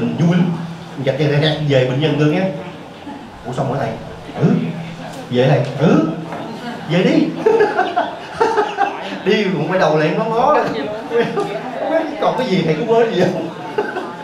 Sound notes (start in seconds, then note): 6.3 laughs; 13.1 laughs